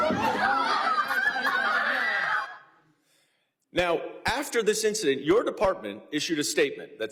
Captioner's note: shouting